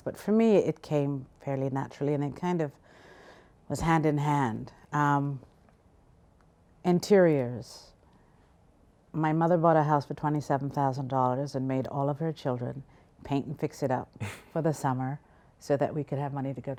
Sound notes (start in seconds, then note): 14.2 laughs